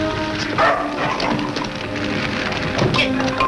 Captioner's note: dog barks